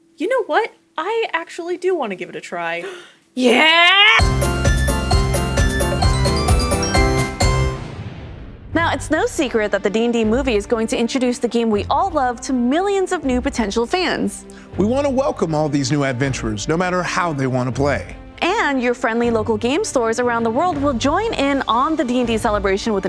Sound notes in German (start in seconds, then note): 2.8 keuch; 4.1 Lustige Musik